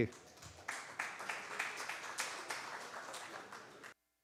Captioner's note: applause